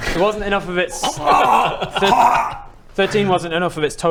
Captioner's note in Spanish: haciendo ruidos como si saliera de algo